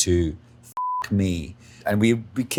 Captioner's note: beeps